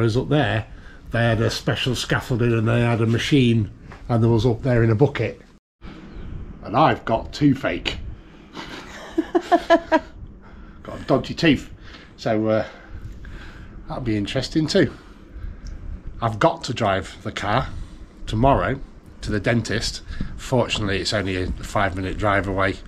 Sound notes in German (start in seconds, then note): 8.5 Gelächter